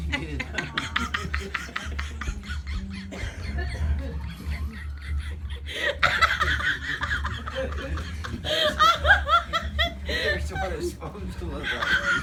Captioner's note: laughter Begins to Spiral Out of Control